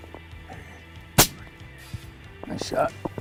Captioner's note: gun bangs